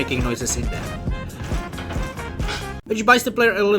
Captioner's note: bad Rattle